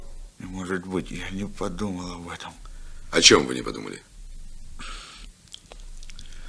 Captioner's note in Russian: фыркает